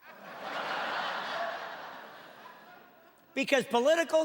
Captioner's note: laughing